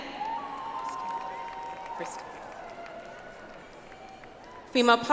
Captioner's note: audience applauds